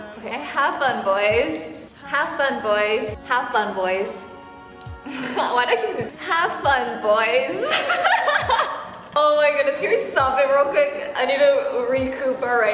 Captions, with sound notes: Okay, have fun, boys. Have fun, boys. Have fun, boys. Why do I keep doing... Have fun, boys. (laughs) Oh my goodness, can we stop it real quick, I need to recuperate.